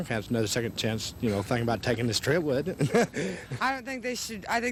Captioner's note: laughs